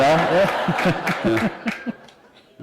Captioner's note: laughter